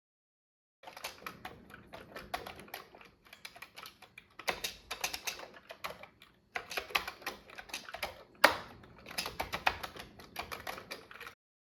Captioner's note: typing on a Commodore 64 keyboard